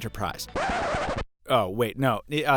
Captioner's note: disc scratching